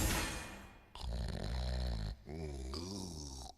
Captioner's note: snoring